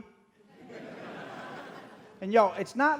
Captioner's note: audience laughing